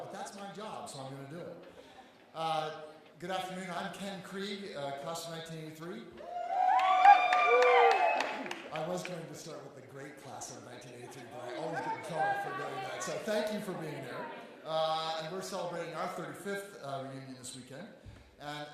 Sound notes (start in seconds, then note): 6.2 audience cheering